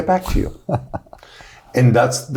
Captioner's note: chuckles